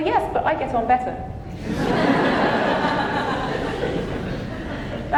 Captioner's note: audience laughing